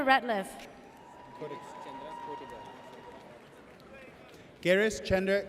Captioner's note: audience cheers